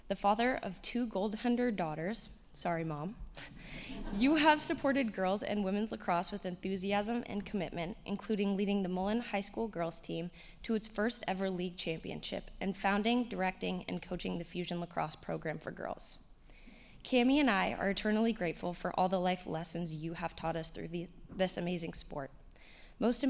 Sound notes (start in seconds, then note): 3.8 attendees laughing